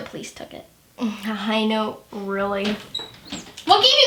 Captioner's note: door opens